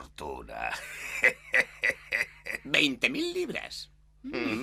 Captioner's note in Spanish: Sullivan ríe